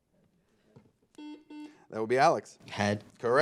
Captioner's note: buzzer